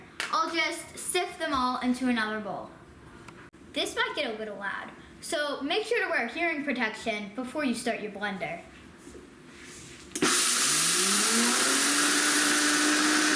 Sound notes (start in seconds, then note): 10.1 blender whirring